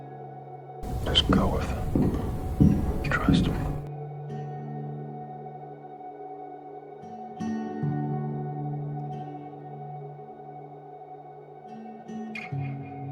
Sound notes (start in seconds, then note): 1.1 whispering; 3.2 whispering